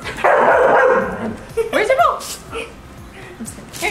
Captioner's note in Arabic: ينبح كلب